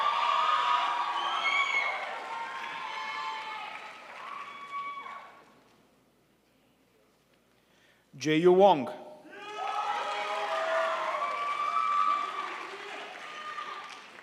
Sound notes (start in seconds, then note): 0.0 crowd applauds; 9.5 crowd applauds